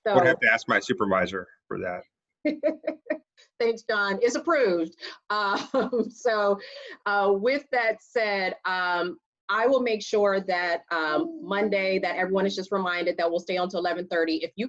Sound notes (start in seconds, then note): 2.4 laughs